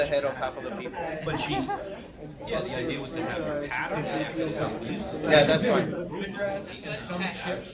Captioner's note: laugh